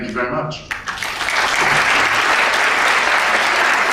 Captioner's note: applause